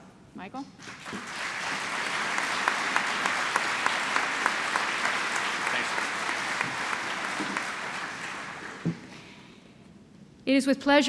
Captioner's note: applause